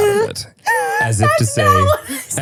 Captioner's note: wheezing